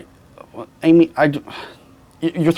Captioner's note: sighs